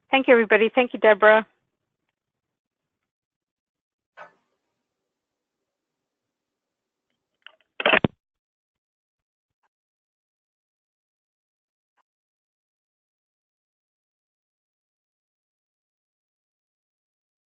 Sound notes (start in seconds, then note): 7.8 phone hanging up